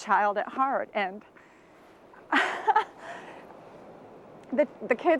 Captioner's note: laughs